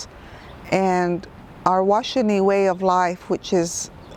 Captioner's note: speaks in foreign language